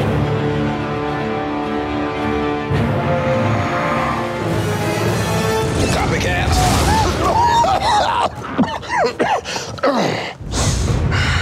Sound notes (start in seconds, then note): 0.1 ominous music; 5.6 explosion; 8.6 repairman coughing